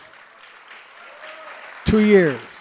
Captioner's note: applause